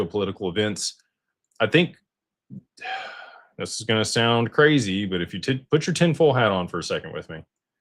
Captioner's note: gasps